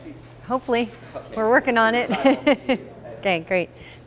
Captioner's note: laughs